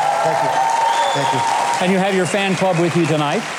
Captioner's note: crowd clapping and applauding